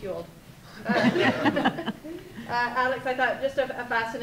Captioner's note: group laughter